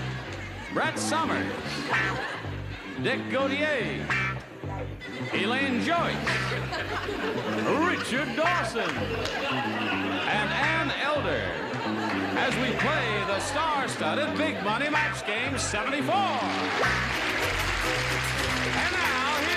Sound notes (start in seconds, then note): 14.0 applause